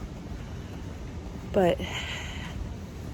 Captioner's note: exhales